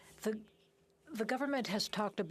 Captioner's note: speaking French